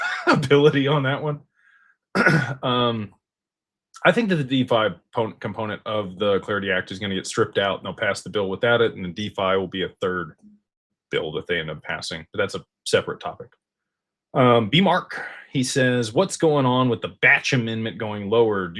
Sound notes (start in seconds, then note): 0.0 laughter; 2.1 clears throat